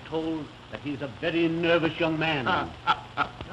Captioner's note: laughing